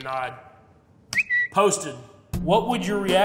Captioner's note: bird chirping